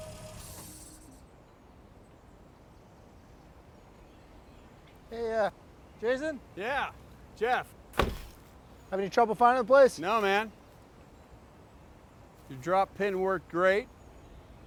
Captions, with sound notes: - Hey, Jason? - Yeah. Jeff. (door closes) - Have any trouble finding the place? - No man. Your dropped pin worked great.